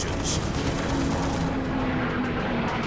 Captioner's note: gunfire